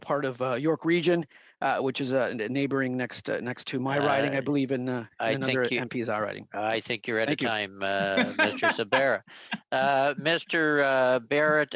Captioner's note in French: voix de l'interprète